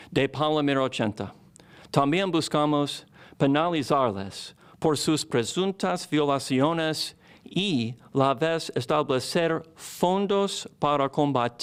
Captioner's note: speaking spanish